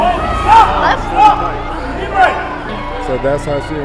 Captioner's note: audience cheering